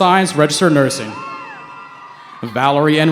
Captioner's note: cheering